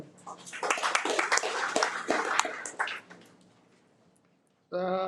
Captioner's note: audience applauding